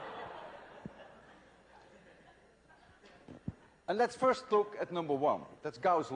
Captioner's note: laughter